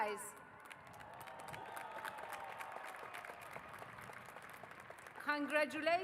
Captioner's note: cheers and applause